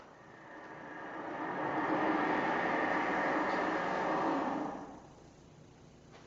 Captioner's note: the sound of a car passing outside